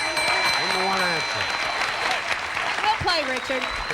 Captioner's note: audience applauding